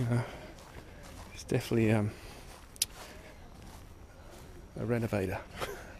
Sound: chuckles

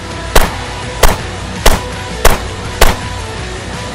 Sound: upbeat rock music; gun popping

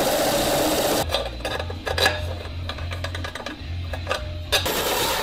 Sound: drill whirring; metal clanking

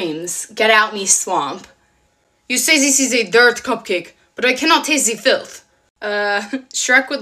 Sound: French accent

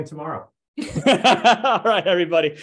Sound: presenters laugh

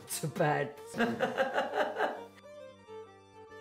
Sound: laughing

